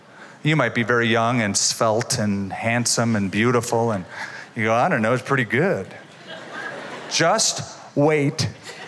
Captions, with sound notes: You might be very young, and svelte, and handsome, and beautiful, and you go, I don't know, it's pretty good. [LAUGHTER] Just wait.